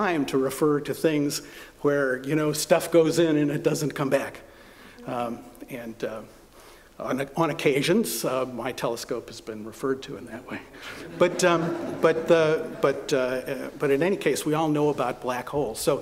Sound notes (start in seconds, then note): 10.9 laughter